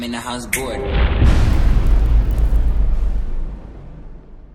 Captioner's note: impact